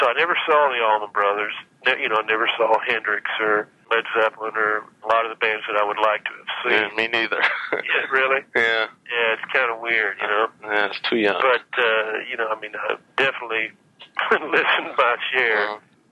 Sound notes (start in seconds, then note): 6.7 laughs